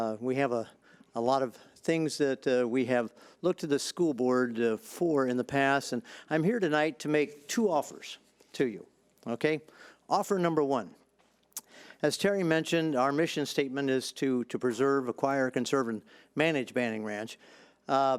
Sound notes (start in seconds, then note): none